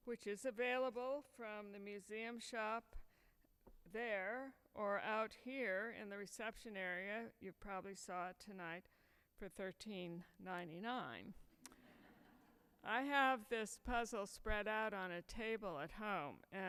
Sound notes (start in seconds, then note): 11.8 audience laughs